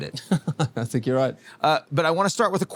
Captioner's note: laughs